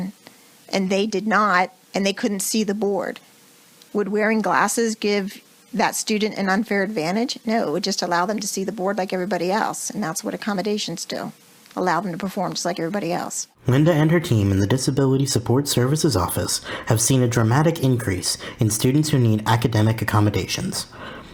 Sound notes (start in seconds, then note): 13.8 voiceover